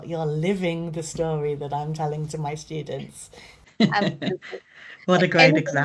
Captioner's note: chuckles